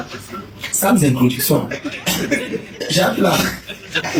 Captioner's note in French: rires